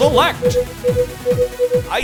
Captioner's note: beeping